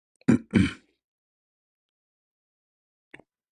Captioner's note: clears throat and cough